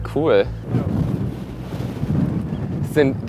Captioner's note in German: Windrauschen